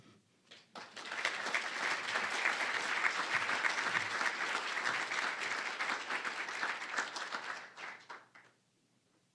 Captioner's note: applause